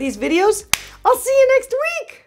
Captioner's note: claps hands